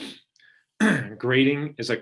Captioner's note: clearing throat